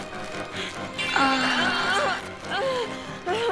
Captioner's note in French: cri érotique